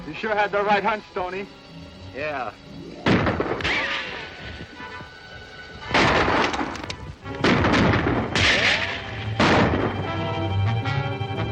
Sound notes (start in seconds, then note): 3.0 gun bangs; 5.9 guns banging; 5.9 moves to dramatic music